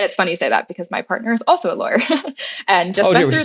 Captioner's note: laugh